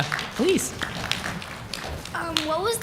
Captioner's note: applause